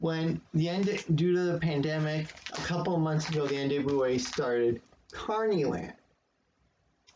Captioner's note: rustling of package tape